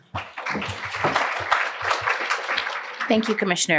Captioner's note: applause